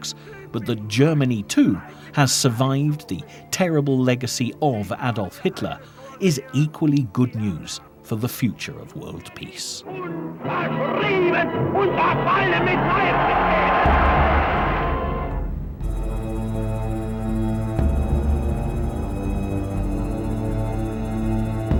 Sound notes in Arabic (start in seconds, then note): 10.1 الصوت المنطوق باللغة الألمانية